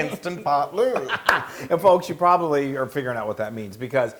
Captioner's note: laugh